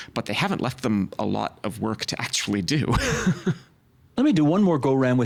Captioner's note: laughing